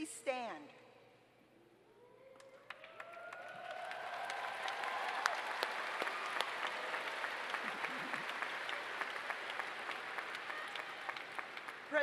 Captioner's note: applause